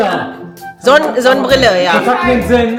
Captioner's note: speaking German